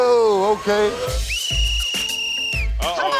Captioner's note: whistle blows